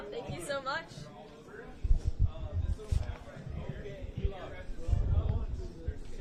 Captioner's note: background chatter